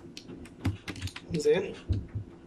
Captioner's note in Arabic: صوت لوحة مفاتيح